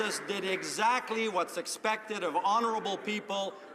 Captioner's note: some Applause